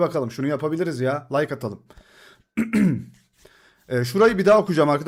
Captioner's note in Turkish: boğazını temizler